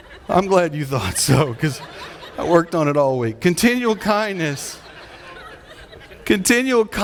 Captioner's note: audience laughing